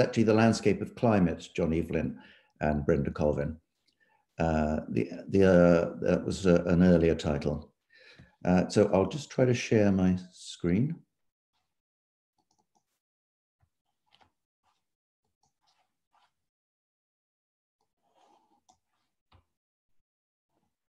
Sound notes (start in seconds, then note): 12.4 mouse clicking